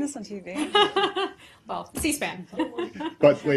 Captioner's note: laughter